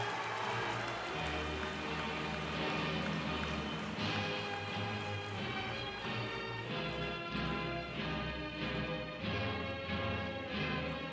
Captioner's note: applause